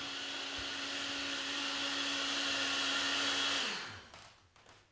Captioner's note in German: blender noise